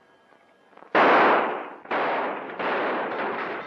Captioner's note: gunshots